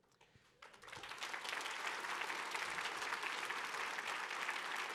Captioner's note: audience clapping